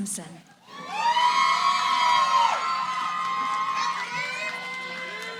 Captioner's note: cheering